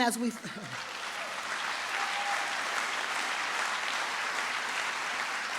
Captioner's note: trustees and audience applaud